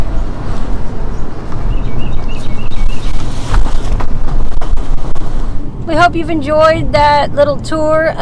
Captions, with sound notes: (birds chirping) - We hope you've enjoyed that little tour